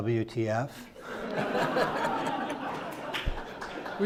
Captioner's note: crowd laughs